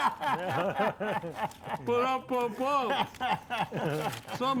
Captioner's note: guys laughing